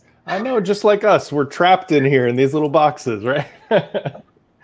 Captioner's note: laughing